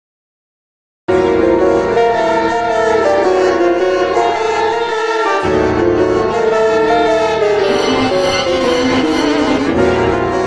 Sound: sound of devil's children

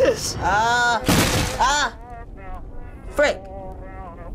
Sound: ceiling collapsing

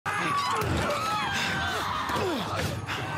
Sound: screaming

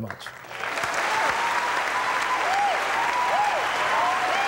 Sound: audience applauding

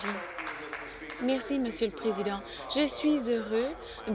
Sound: applause

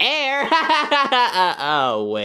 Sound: Yoshi laughing

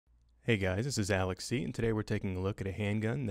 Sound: voiceover

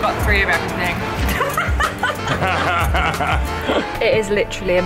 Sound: laughing

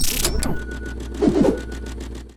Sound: whooshing

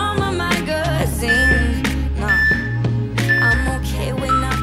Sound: timer beeping

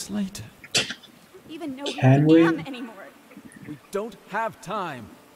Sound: scoffs

